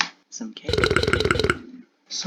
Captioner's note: burp